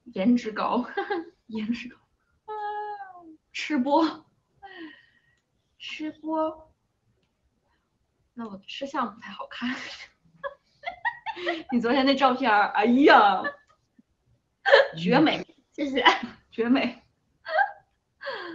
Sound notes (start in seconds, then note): 14.5 mocking tone